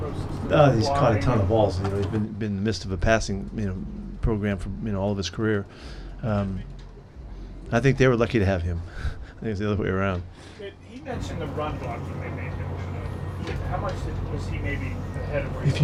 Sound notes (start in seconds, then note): 8.6 chuckles